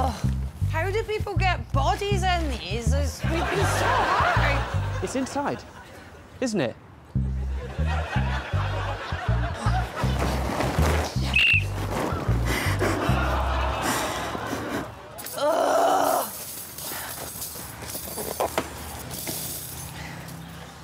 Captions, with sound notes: Argh, how do people get bodies in these? It must be so hard. It's inside, isn't it? [whistle blows] [cries] Argh.